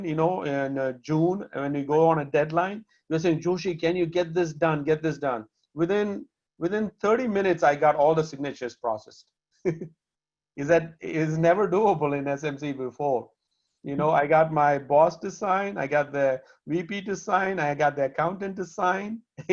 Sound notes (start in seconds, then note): 9.3 laughter; 19.2 laughter